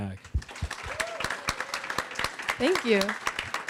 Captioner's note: applause